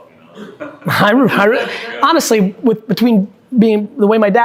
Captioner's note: group chuckling